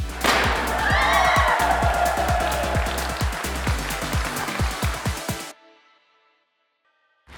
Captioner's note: crowd cheering; confetti gun pops